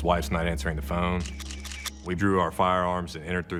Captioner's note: camera shutter clicking